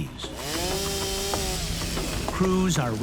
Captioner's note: saw whirring